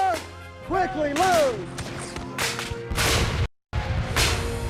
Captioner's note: shouting